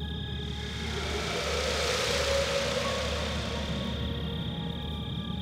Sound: eerie, echoing wind

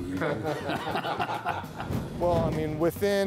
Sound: laughing

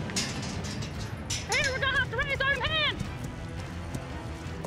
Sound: shouting, hoof beats; gate clanking, shouting

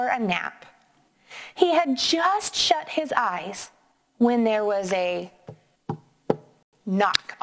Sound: knocking

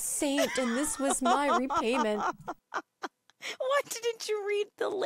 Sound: laughing

